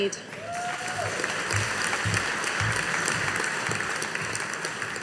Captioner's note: audience applauding